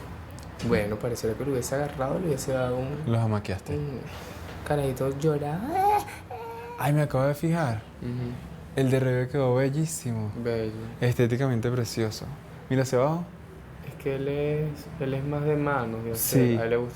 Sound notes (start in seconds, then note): 5.6 mimics crying